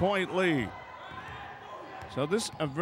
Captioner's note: ball pounding; yelling